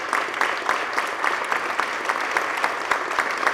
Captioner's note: applause